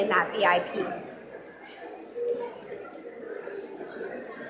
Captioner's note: audience mumbling